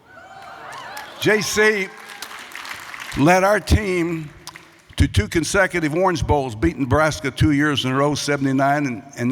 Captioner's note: applause